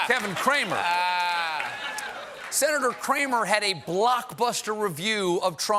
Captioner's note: laughter